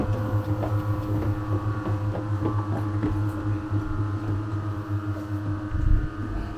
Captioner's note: machine buzzing; shoes pattering